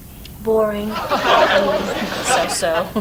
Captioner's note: audience laughs